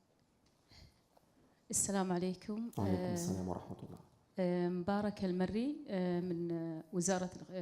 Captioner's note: audience member speaking in foreign language